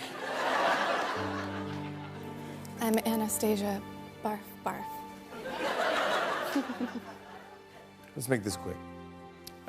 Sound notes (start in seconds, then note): 0.0 laughter; 5.4 laughter